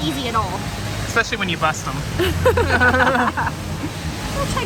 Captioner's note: laughs